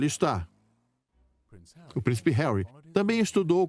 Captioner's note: voiceover